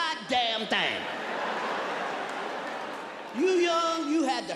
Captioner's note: audience laughs